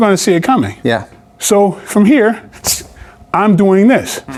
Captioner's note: exhales